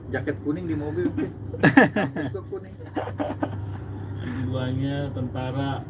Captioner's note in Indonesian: tertawa